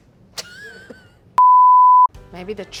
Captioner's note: beep